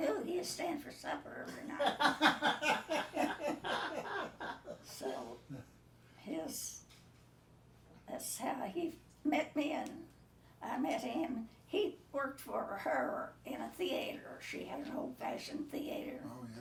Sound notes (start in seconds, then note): 1.5 group laughing